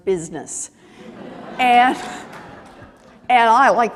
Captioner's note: laughter